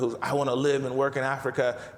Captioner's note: none